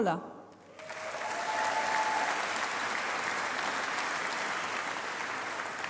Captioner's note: applause